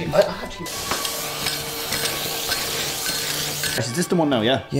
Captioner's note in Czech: zvuk vysavače